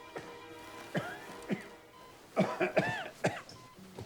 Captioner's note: Randolph coughing